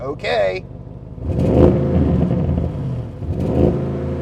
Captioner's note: car revving